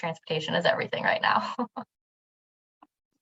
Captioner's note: giggles